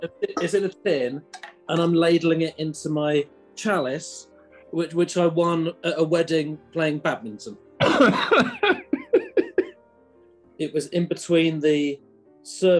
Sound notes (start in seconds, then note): 0.0 laughing; 7.8 coughing and laughing